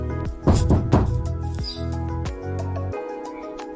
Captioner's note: knocking on door